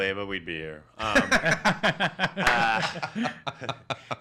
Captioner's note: laughs